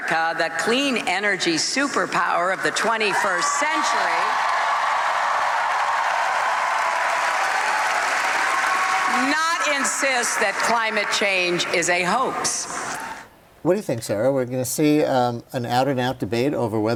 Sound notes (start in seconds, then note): 6.4 applause; 7.0 screaming